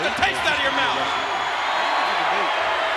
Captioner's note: audience cheering